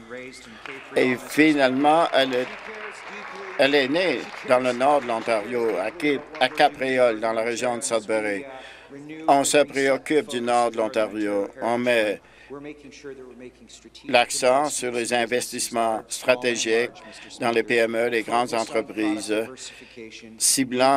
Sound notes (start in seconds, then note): 6.9 applause